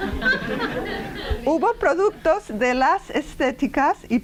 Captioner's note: laughter; speaking spanish